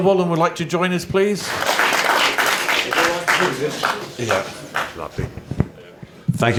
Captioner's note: applause